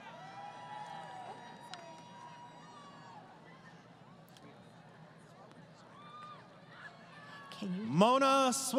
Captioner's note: crowd Cheering